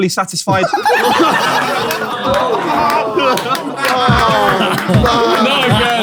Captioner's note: people in room groan and laugh